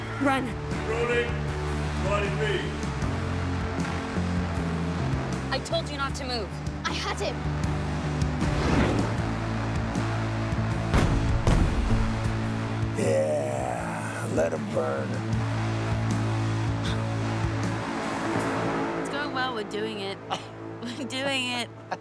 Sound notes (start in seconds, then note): 8.4 whoosh; 16.8 gasps